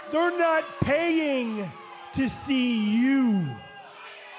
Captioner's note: cheers & boos